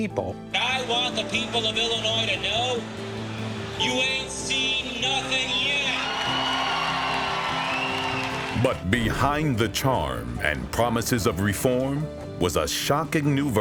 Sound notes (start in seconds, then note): 5.4 audience applauding; 5.4 audience cheering